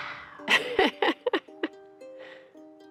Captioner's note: laughs